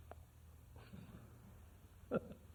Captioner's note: laughs